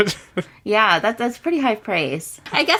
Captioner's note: laughs